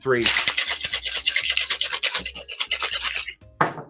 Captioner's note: ice clattering